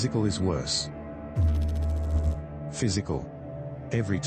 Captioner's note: electrical noise